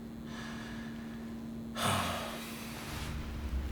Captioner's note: sighing